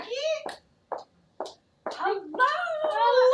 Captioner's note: footsteps approaching